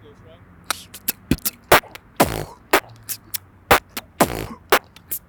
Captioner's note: beatboxing into mic